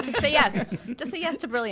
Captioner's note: laughs